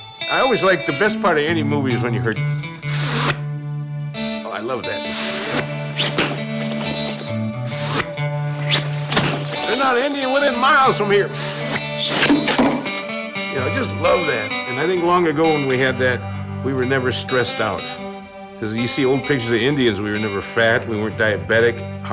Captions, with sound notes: - The best part of any movie is when you heard phhht! Oh, I love that. Phhht! (arrows whizzing) Phhht! There's not an Indian within miles from here. Phhht! You know, I just love that. And I think long ago, when we had that, we were never stressed out, 'cause if you see old pictures of Indians, we were never fat, we weren't diabetic,